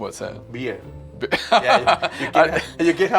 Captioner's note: laughing